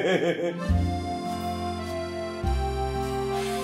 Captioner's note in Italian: risata; suoneria cellulare